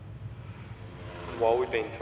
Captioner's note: airplane whirs